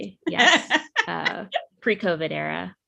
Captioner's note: laughs